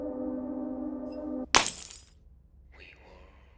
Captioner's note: glass breaking